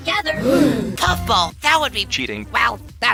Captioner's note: gasp